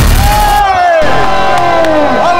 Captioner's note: Applauding